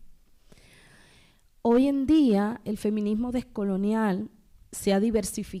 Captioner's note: speaking spanish